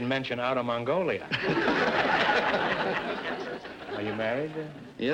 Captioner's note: audience laughter